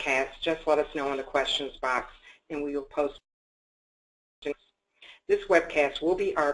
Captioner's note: audio disruption